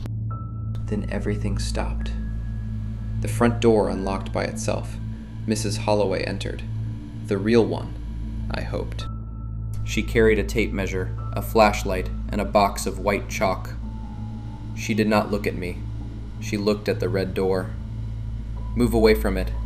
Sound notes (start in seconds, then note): 0.2 quietly; 9.2 breathing unsteadily